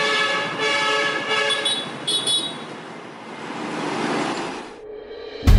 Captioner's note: street sounds